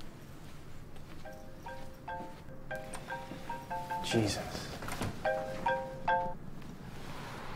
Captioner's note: phone rings